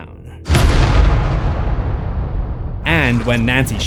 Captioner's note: boom